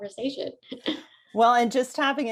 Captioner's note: laughs